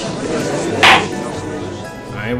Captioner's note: gallery chattering; gavel slams!